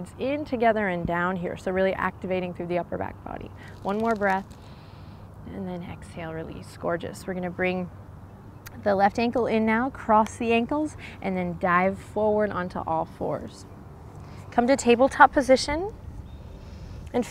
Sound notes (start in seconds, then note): 4.6 takes deep breath